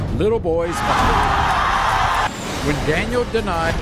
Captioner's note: audience yelling